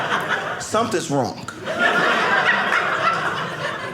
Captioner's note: audience laughing